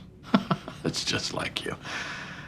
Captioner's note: Chuck chuckling